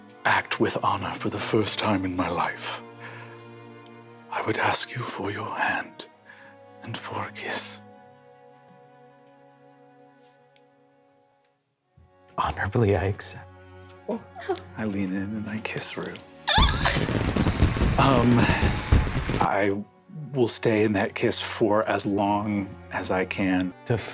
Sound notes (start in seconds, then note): 13.7 cast makes happy noises; 16.4 squeals